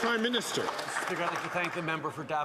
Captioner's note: some Applause